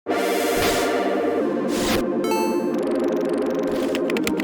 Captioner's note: electronic chiming